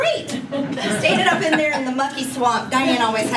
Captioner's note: laugh